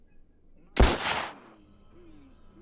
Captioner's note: gun bangs